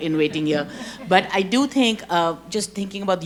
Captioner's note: audience chuckles